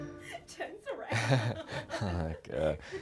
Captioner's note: gentle music; laughing; laughs